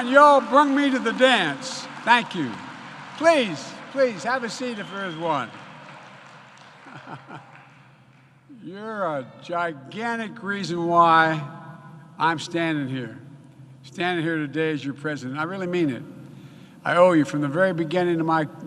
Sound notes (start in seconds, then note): 0.0 applause